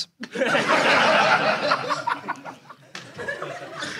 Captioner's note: audience laughs